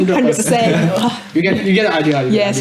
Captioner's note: laughs